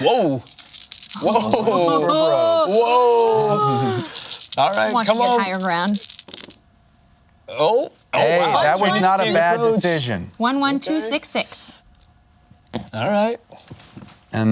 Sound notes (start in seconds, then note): 1.1 laughs; 2.6 dice rattling